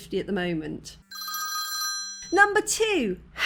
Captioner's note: phone ringing